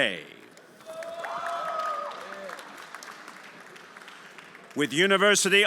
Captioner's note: everyone applauding